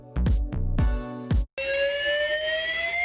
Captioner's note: alarm Sound